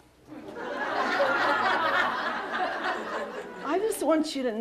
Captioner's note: laughter